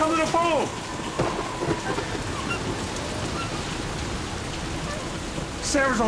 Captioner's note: heavy thunderstorm